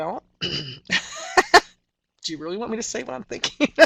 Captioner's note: laughter